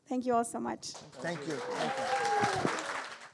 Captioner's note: audience applauding